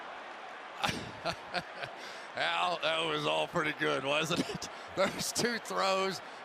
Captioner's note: laughs